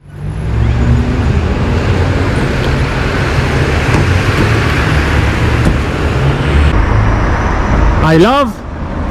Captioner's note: street noise